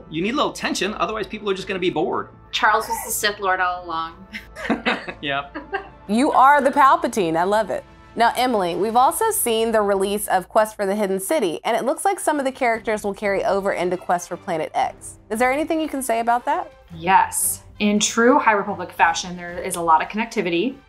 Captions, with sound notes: You need a little tension; otherwise, people are just gonna be bored. - Charles was a Sith Lord all along. [both laugh] - Yep. - You are the Palpatine. I love it. Now Emeli, we've also seen the release of "Quest for the Hidden City," and it looks like some of the characters will carry over into "Quest for Planet X." Is there anything you can say about that? - Yes, in true "High Republic" fashion, there is a lot of connectivity,